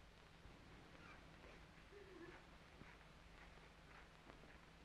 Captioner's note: women sobbing